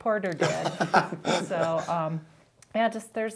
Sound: laughing

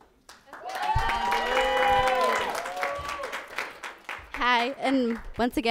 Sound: audience applauds; people cheer

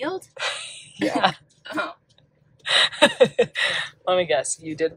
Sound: laughs

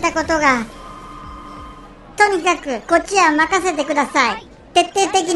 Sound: phone rings

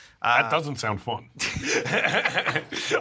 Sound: laughs

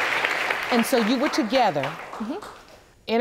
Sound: audience applauding

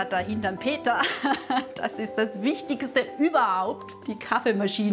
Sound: laughs

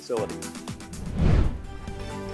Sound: swooshing noise

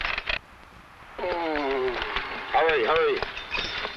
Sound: man groans

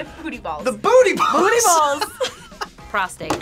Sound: both laugh

